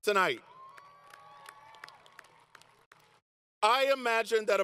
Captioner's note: applause